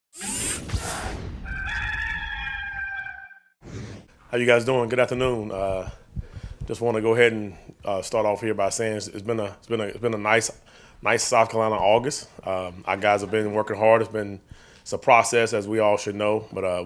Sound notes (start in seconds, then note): 0.2 logo swishing; 1.4 cock crowing